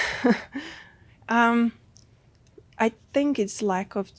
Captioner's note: whispers